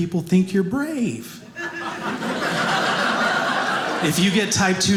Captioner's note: audience laughing